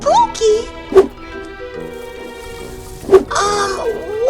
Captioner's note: trees rustling